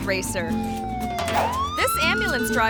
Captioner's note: siren blaring